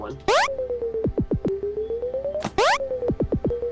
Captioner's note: switch beeping